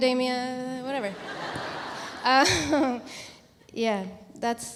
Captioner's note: audience laughs